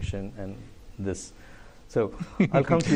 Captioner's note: laughter